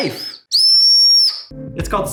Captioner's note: whistle squeaking